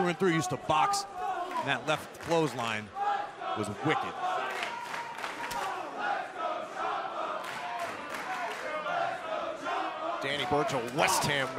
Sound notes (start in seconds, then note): 4.7 crowd cheering